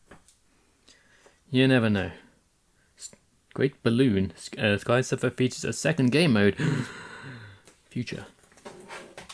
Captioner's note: gasp